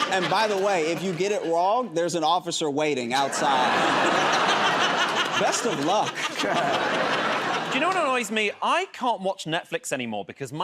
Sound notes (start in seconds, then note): 0.0 laughter and applause; 3.2 laughter